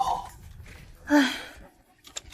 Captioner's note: sigh